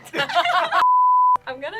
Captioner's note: group laughs; beep